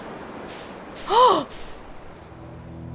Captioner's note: gasp